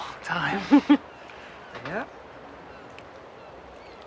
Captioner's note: Martha laughing